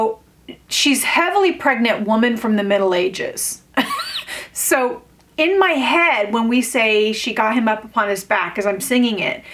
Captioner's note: incredulous laugh